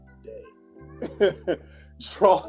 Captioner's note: laughs